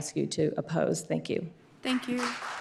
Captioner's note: applause